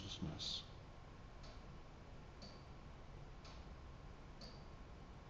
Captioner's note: clock ticking